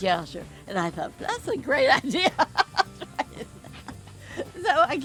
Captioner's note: laughs